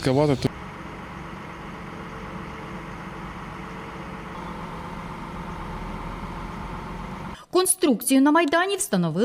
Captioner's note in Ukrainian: шум екскаватора